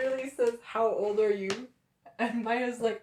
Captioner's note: laughter